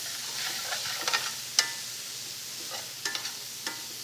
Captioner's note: sizzling